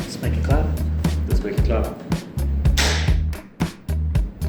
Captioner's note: clap